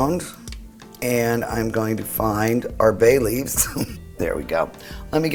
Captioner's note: chuckles